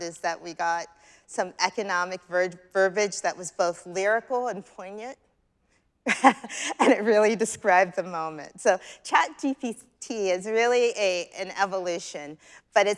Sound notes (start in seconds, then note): 6.1 chuckles